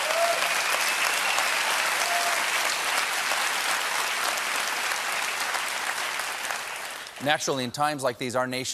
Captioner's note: applause